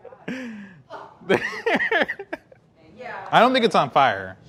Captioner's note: laughing